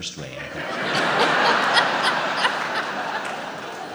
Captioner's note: laughs